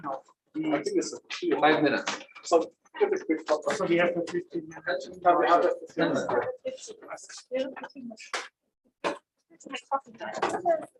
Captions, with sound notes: Have-- We-- I think it's 15 or-- Five minutes. So very quick coffee. So we have 15 minutes. (indistinct conversation)